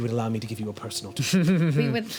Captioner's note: laughing